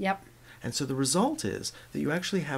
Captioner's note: voiceover